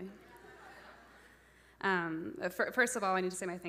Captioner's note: audience laughing